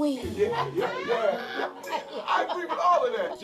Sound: laughing

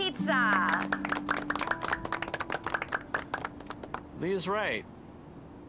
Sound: applause

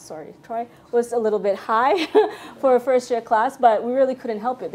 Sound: laughs

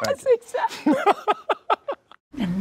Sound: Sterling laughs

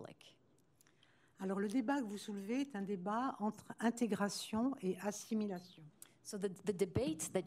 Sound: speaking french

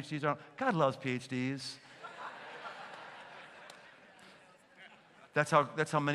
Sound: laughter

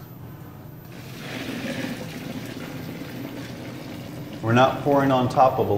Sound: pouring water sounds

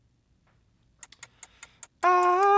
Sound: ticking

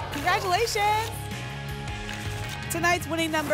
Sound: tickets shuffling

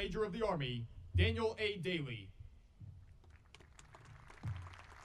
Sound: audience applauding

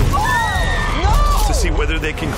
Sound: woman screams

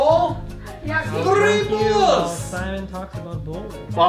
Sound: Russian accent

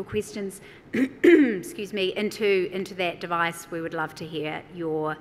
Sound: clears throat

